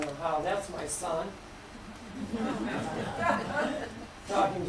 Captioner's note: laughter